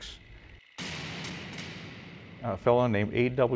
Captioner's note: bridge collapsing